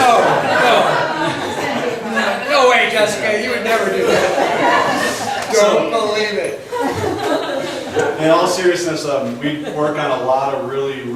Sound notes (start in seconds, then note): 3.1 voiceover; 5.9 laughs